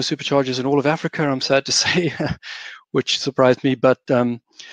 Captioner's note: laughs